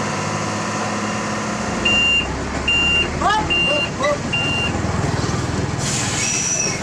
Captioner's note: engine Rev